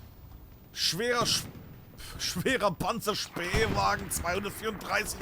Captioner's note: speaking German